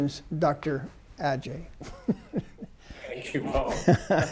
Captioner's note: laughing